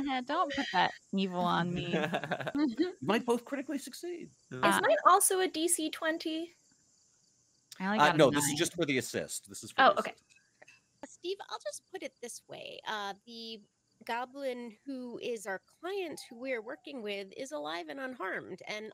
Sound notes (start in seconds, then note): 0.1 laughs